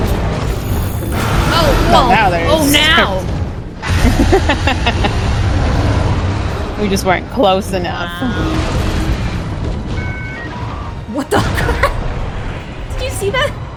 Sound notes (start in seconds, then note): 4.4 laughs